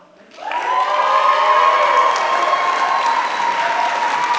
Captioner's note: applause